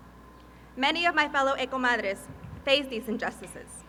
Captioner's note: speaking Spanish